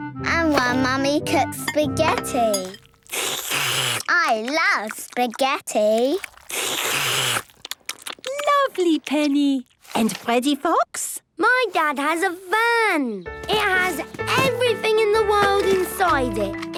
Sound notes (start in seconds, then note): 2.9 slurping; 6.5 all slurping